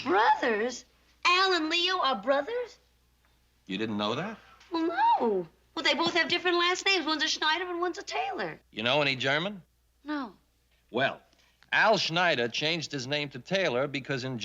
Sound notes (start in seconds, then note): none